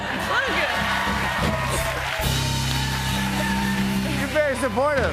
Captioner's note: cheers and applause